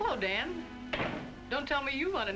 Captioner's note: door closes